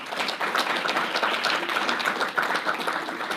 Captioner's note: audience applauds